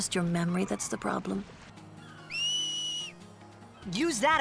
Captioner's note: Tidus whistles